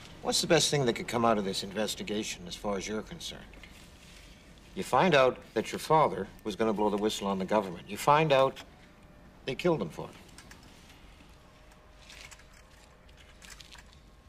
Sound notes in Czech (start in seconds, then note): none